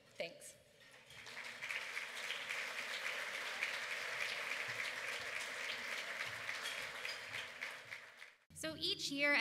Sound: applause

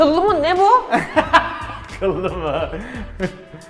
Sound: laughs

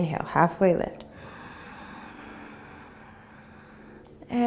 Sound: inhaling

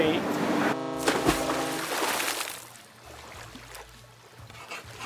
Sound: water splashing

